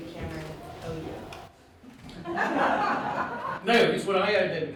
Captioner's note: audience laughing